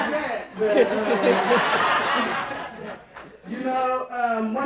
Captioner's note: audience laughing